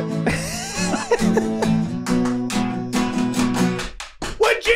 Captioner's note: upbeat guitar music; Charlie laughing